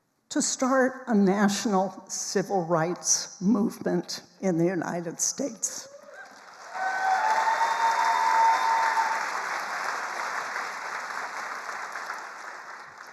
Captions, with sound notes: to start a national civil rights movement in the United States. (attendees cheering and applauding)